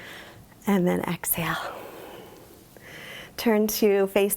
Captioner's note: exhales deeply